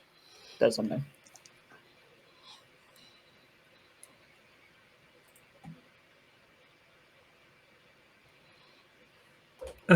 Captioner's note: Roll20 clicking